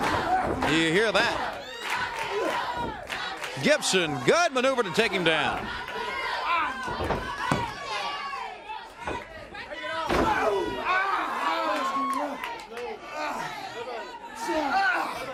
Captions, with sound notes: COUNTRY, DO YOU HEAR THAT? GIBSON, GOOD MANEUVER TO TAKE HIM DOWN. >> [CROWD CHATTER] >> BACK TO THE LEG AGAIN.